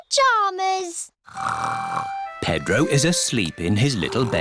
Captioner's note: snores